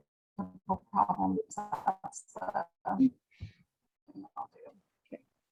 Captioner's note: speech distorting